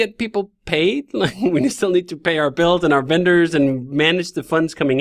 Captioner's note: chuckling